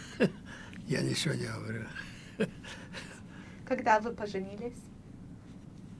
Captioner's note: laughing